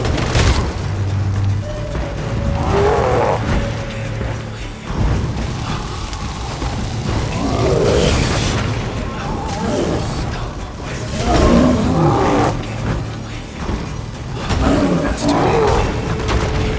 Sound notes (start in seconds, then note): 0.0 growl; 0.0 loud crash; 1.6 groan; 3.6 roar; 5.2 flames crackle; 8.2 roar; 8.6 loud crash; 12.0 roar; 14.9 growl